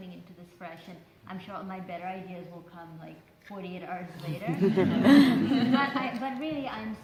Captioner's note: laughter